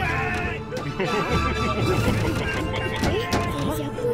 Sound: smug laughter

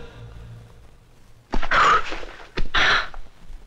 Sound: heavy Breathing

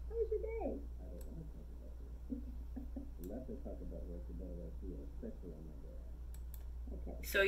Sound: she giggles

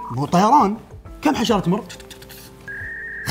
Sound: munching sounds

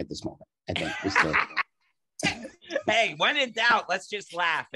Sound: laughing

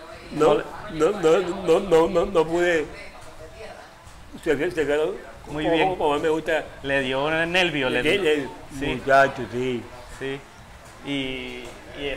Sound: laughs

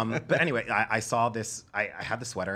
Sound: laughter

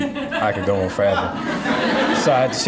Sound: audience laughing

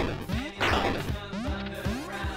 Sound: boom

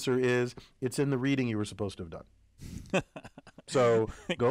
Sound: laugh

